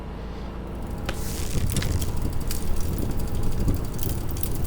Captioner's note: ground crunches; object clicking